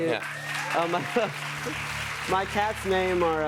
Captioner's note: applause